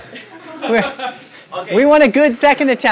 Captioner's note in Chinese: 笑声